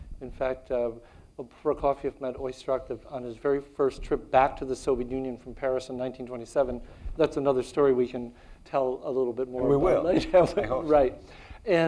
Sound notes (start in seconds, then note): 10.0 chuckles